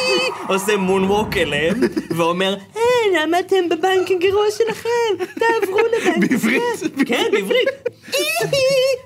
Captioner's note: snickers